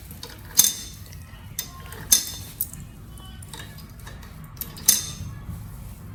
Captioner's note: three coins clink loudly into coin holder